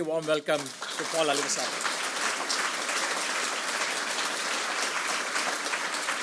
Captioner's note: audience applauds